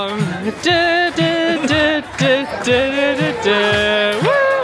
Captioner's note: vocalising